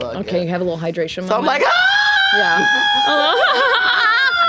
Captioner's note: screams; laughter